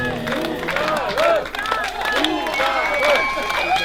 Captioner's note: applause